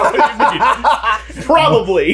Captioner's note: all laughing